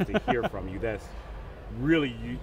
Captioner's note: laughing